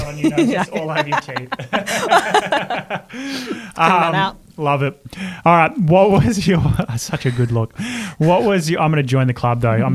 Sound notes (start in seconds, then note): 2.0 both laugh